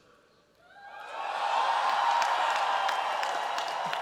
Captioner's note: cheers, applause